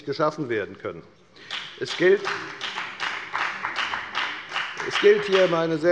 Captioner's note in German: Beifall bei der FDP